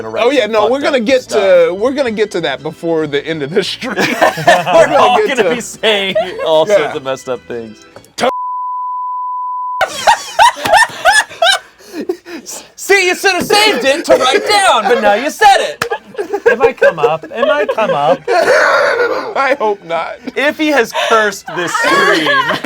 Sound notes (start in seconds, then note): 3.9 everyone laughs; 8.3 beep; 9.8 everyone laughs; 21.0 everyone laughs